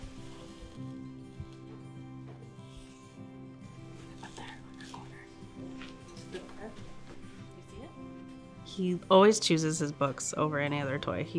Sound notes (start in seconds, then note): 6.4 whispering